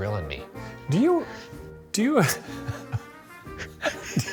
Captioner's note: laughs